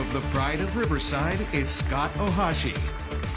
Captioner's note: cheers and applause